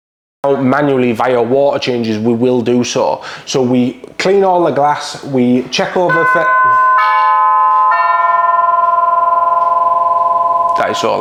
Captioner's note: door bell